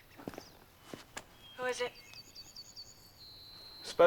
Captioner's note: over intercom